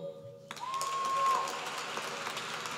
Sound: applause

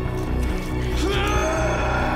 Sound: screaming

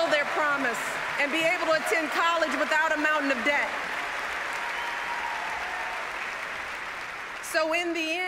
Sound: applause

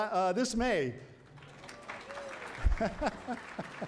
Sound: applause

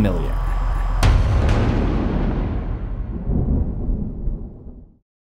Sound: impact

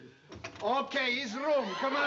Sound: opens door

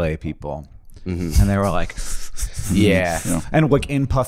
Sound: shivering

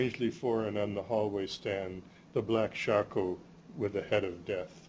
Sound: non-english

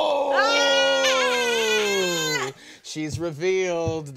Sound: screaming

